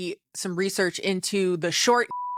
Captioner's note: beep